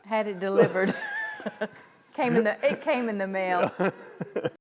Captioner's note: laughing; laugh